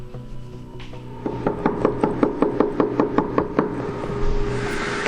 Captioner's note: knocking noises